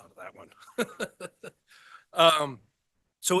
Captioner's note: laughs